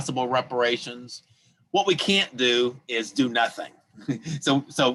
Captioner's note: laughs